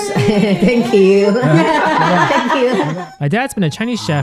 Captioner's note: laughs